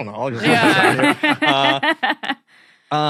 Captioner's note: guessers chuckling